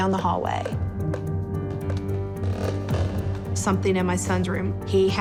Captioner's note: footsteps in distance